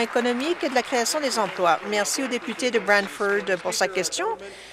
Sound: applause

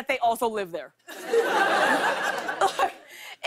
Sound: laughter

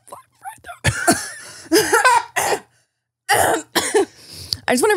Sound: both laughing

